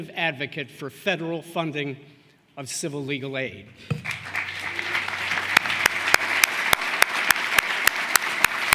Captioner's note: applause